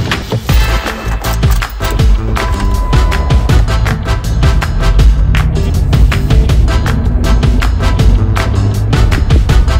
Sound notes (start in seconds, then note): 0.1 upbeat music; 2.0 engine roaring